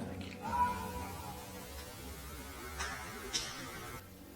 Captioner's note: buzzing